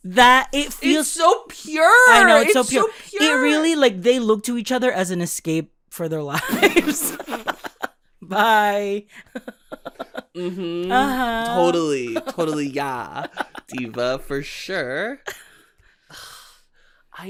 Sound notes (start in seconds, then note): 1.1 choked up; 7.0 sputtering laughter; 9.3 giggling; 15.7 sigh